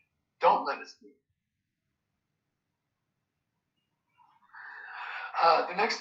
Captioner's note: pause